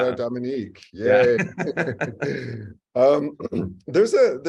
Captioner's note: laugh